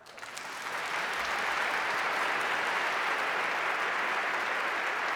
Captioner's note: audience applauding